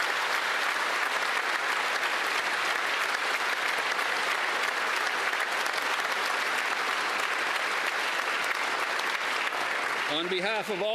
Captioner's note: applause